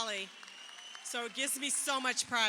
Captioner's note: crowd cheering